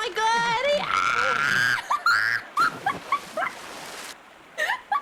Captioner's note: screams